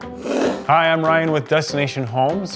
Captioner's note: whooshing